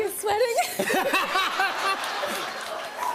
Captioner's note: laughter